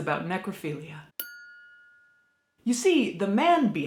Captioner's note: bell dings